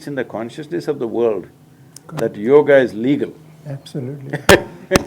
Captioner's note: laughs